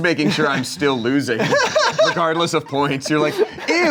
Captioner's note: laughing